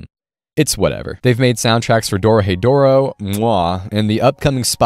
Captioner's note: mwah